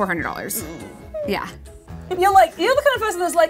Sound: whimpers

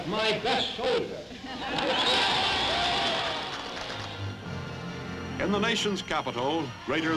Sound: crowd cheers and laughs

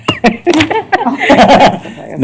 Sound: laughter

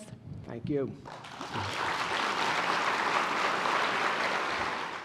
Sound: applause

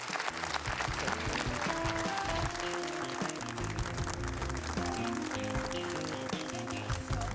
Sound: applause

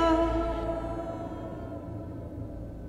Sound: wind blowing silently

